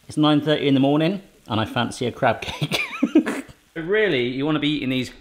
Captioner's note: laughs